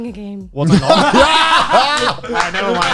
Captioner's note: all laughing